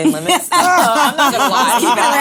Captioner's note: laughing